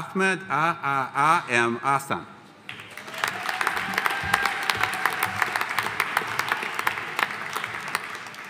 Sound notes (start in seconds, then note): 2.7 audience applauding; 2.9 audience cheering